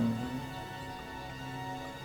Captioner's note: whispering